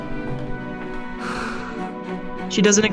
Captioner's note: lucy exhales